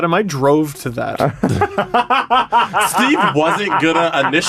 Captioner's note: cackling